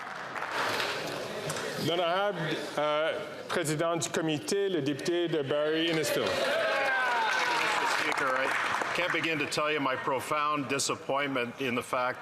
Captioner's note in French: applaudissements